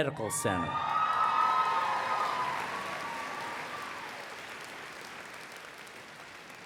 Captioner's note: applause